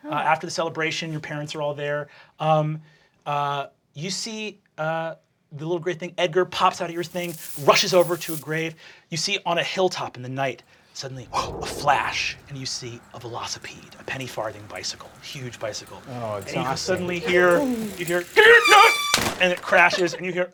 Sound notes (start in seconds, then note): 7.0 rat squeaking; 18.3 bicycle squeaking; 18.3 groaning